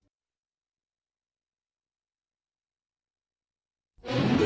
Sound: silence

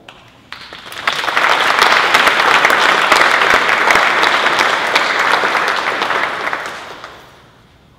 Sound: applause

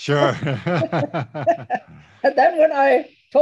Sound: both laugh

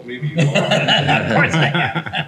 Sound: others laughing

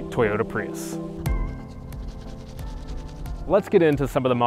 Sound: brushing teeth

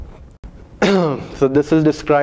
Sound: cough

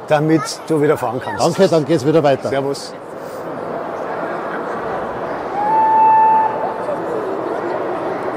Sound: whistle

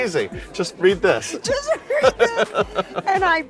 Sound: laughing

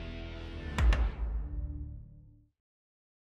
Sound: logo thunks

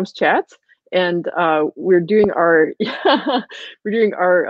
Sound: laughing

